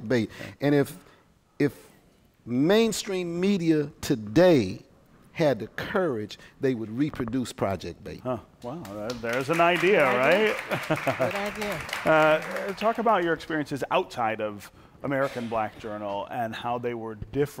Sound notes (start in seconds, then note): 10.3 applause